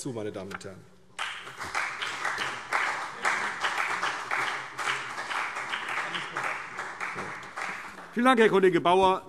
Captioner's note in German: Beifall CDU und BÜNDNIS 90/DIE GRÜNEN